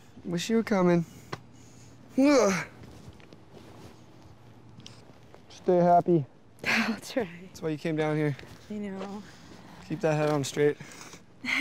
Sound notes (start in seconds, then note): 2.3 grunts